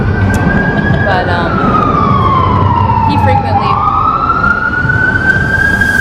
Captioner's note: ambulance siren blaring